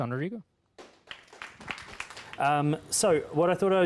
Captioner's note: applause